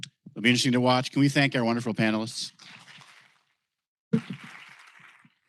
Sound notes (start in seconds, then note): 4.2 applause